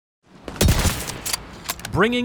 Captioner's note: gunshot